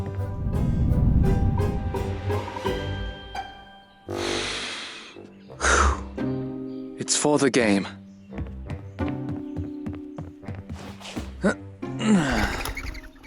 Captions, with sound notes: [breathing] It's for the game [Spencer groans]